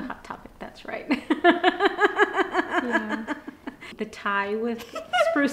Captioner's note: laughing